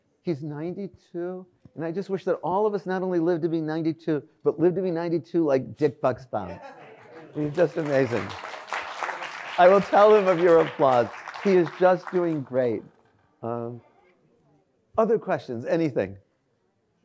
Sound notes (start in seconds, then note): 6.9 audience applauds